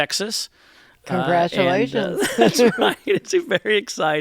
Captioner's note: laughter